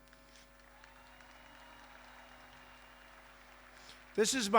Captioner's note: applause